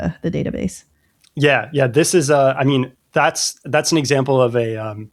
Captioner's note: uh